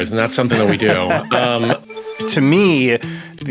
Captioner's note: laughs